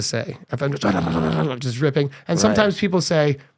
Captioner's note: imitating beating drums